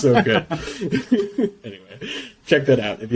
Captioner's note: laughs